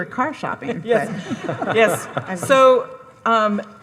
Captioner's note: audience laughing